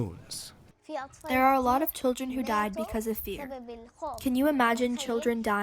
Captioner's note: through translator